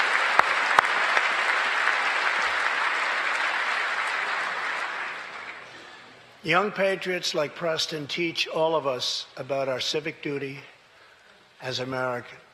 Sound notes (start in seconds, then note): 0.0 applause